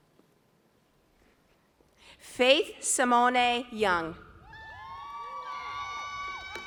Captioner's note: cheers, applause